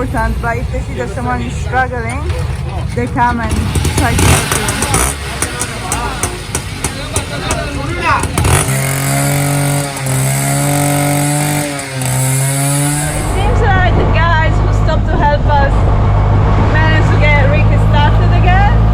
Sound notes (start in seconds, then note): 4.9 engine sound